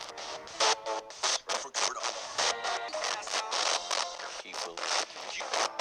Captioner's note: spirit box voices